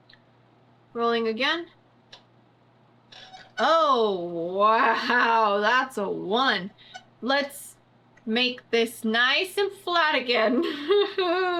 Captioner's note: cries